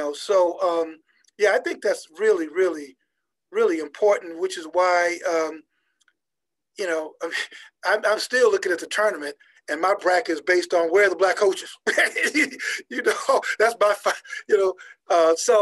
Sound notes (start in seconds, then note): 11.8 laughing